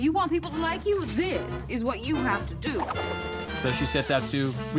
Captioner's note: none